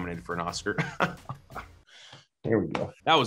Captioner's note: laughing